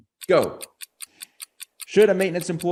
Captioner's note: clock ticking